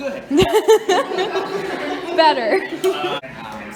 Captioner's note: laughs